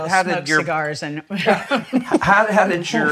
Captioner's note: laughs